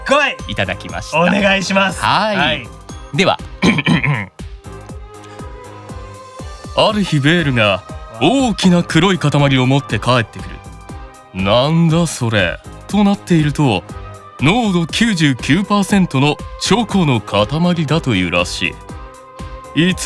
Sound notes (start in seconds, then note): 3.4 cough